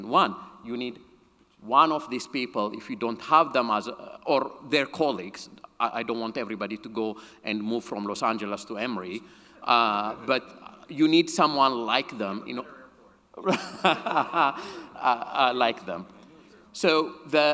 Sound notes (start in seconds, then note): 13.4 chuckles